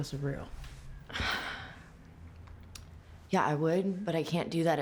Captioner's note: sighs